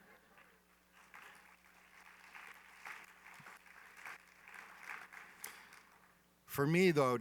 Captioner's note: laughter, applause